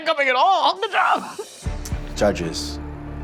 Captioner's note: laughs